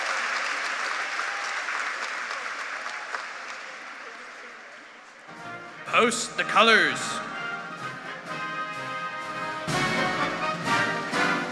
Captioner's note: cheers and Applause